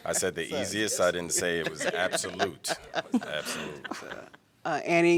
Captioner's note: laughter